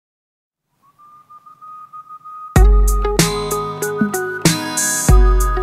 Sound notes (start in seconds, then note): 0.8 person whistling happily; 2.6 upbeat music